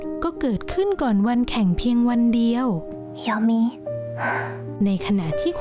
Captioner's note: sound of gasping